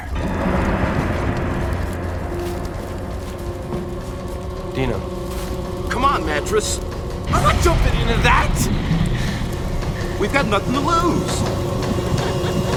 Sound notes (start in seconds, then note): 8.8 breathing heavily; 11.8 girls giggling